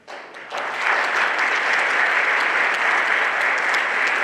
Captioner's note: everyone applauding